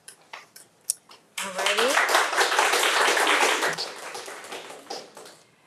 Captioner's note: audience applauding